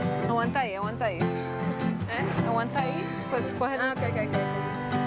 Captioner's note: chattering